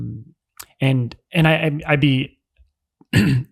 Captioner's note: clears throat